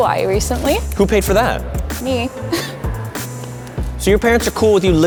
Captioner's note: laughs